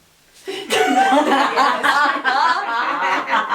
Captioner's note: everyone laughs